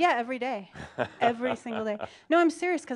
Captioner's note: Adamus chuckles